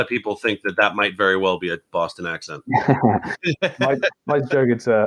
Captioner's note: laughs